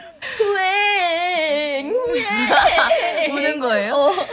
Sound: making crying sound

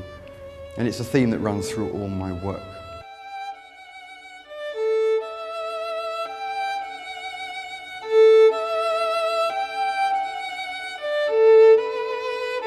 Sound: chainsaw wurring

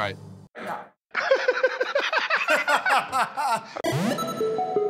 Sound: both laugh

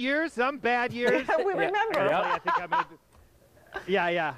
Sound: laughing

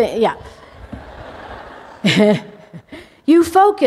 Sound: laughter

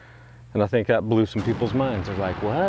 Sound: bomb exploding

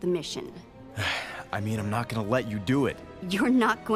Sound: sigh

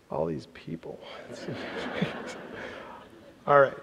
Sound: laughter

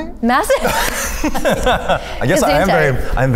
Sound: Chloe and Eugene laughing

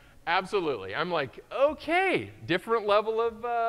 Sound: none

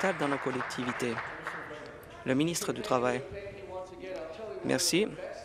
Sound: applause

